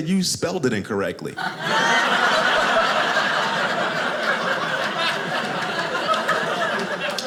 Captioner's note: audience laughing